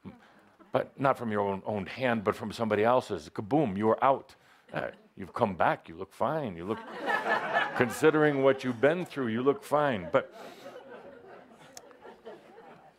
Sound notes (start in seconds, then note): 6.7 laughter